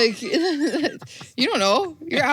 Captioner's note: wheezes